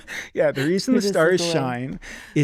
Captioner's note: chuckling